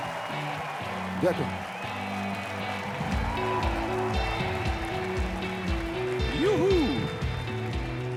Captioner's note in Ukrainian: оплески